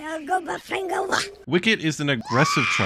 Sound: more Ewokese

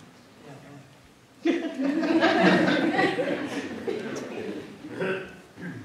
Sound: laughing

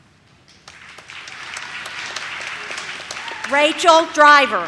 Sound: audience claps

